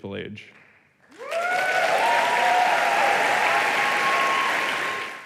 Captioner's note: applause